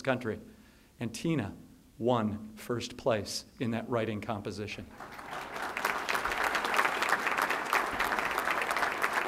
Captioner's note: applause